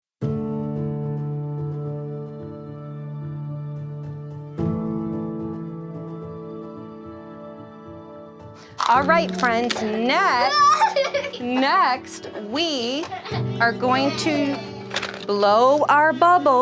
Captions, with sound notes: (gentle music) - All right, friends. Next- (student laughing) Next we are going to blow our bubbles